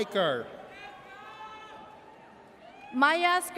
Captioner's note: audience cheers